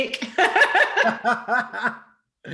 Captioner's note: laughter